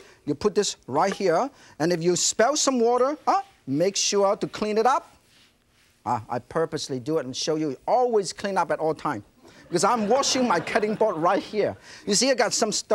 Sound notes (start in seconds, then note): 9.6 audience laughing